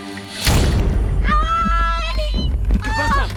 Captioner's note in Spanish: Grito; Quejidos